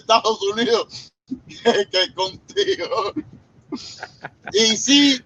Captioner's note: laughs